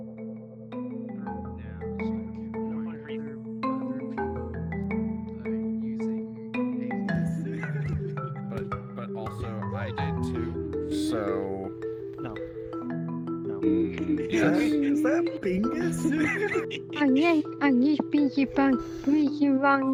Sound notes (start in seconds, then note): 0.3 distant chatter; 7.2 laughing; 13.6 laughing